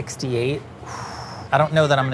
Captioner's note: sighs